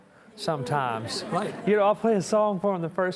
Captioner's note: audience chuckling